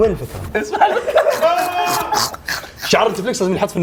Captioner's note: laughter